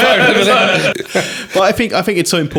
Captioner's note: laughing